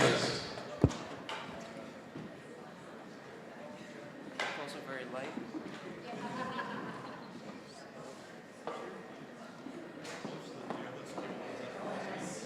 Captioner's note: general chatter